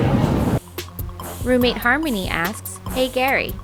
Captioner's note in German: Voice-over